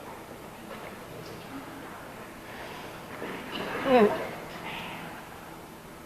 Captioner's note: The sailors whisper for 3rd to come back